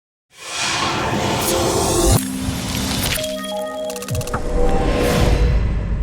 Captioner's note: electronic sounds